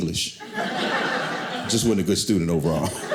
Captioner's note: audience laughing